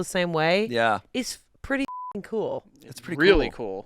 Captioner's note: beep